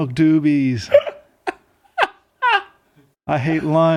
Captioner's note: laughing